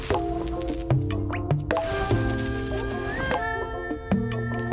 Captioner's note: electricity crackling